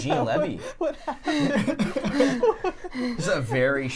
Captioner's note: laughing